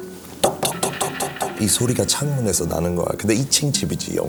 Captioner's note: A sudden knocking at the window